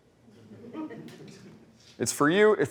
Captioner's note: laughter